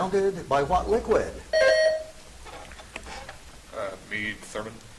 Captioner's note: buzzer chimes